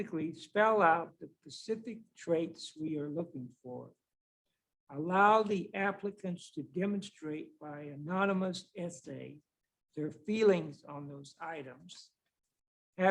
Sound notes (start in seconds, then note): none